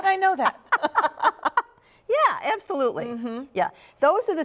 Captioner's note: laughter